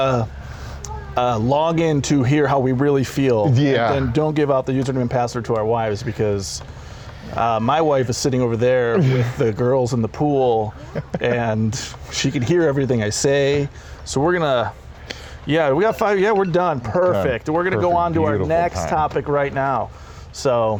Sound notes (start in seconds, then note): 15.8 alarm ringing